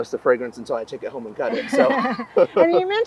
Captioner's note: both laughing